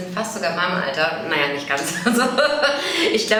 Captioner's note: haha